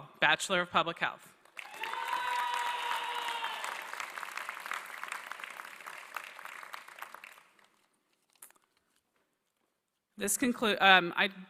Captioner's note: applause